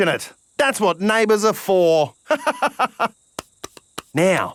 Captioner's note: laughs